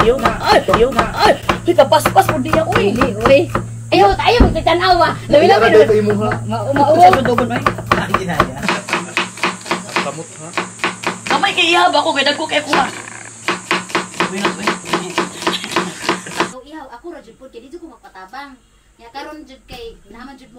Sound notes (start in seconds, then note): 3.2 with a shy & humble voice; 14.8 the sound of slicing is very relaxing